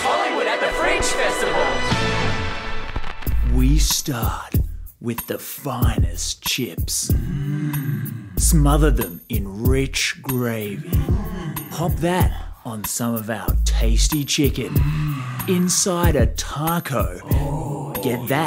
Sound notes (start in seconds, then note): 7.1 men exclaiming; 10.6 men exclaiming; 14.6 exclaiming